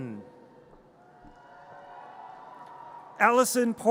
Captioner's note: audience cheers